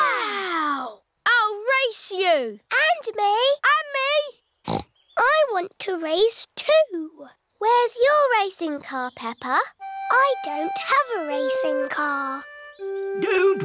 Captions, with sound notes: Wow! I'll race you. -And me. -And me. (SNORTS) I want to race, too. Where's your racing car, Peppa? I don't have a racing car.